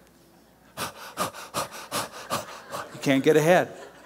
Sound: panting

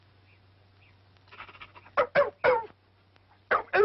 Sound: barking

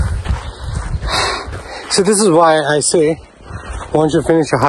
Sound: sighs

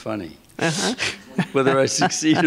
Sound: laughter

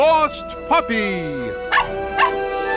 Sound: barking

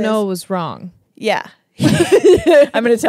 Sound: laugh

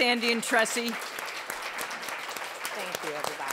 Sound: applause

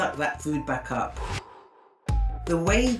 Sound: whooshing

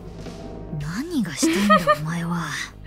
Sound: chuckles

